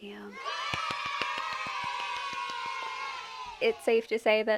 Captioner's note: cheers from the audience